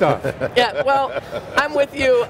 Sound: laughs

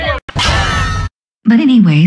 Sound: all screaming; clang!

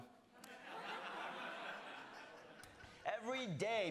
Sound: The Daily Show: audience laughing

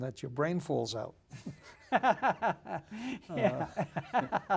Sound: laughing

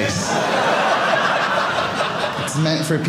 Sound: audience laughing

